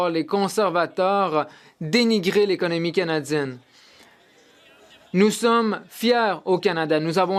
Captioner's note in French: voix de l'interprète